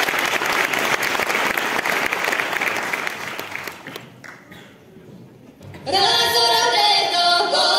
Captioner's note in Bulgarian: аплодисменти